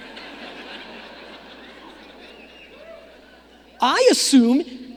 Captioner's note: audience laughing